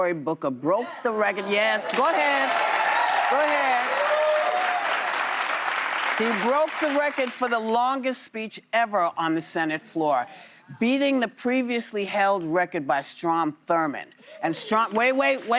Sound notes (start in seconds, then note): 7.4 applause